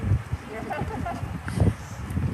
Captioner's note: laughter